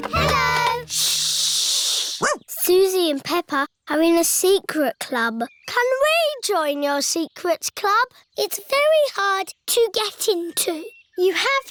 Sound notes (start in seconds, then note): 2.2 barks